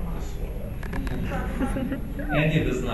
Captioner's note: audience laughs